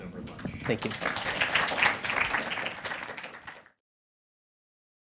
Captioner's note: clapping